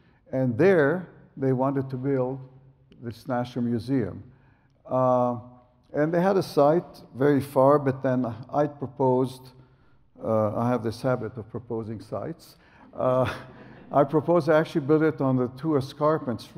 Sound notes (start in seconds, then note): 12.4 laughs